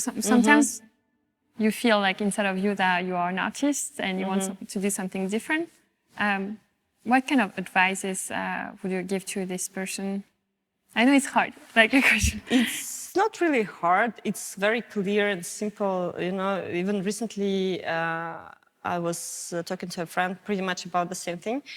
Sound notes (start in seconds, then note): 12.2 chuckles